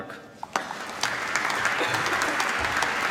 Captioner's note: applause